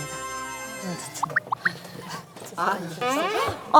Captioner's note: chattering